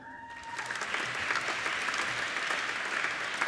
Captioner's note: applauding